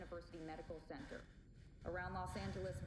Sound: heavy breathing

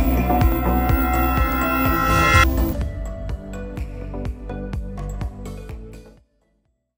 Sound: sound of CB Aviation extro logo; for sale music

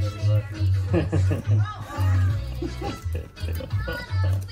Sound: both laugh

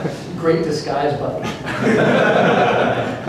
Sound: laughter

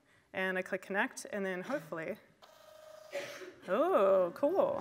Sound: machine prints

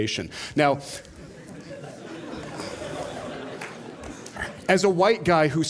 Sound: laughter

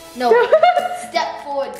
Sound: mother laughs

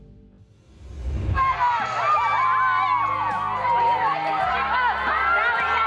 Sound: cheering

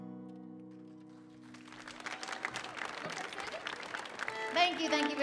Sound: audience applauding

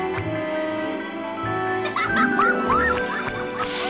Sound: laughing

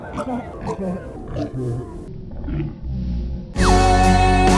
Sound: slow-motion choking; upbeat music

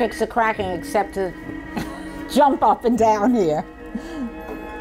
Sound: laughs

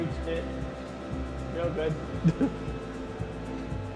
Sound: chuckles

